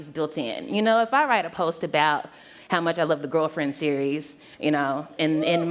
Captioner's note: cheer